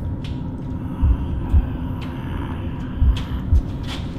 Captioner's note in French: Rugissement bas et pas